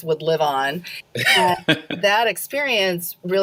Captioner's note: laughs